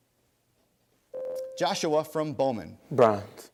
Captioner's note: ding